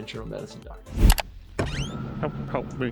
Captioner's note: mouse clicks; door screeching